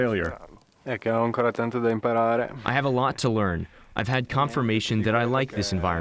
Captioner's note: through translator